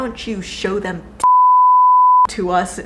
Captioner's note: beep